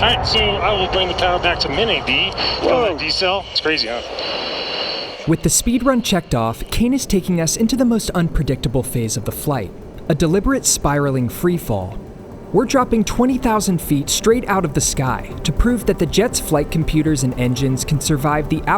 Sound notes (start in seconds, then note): 4.4 inside jet ambience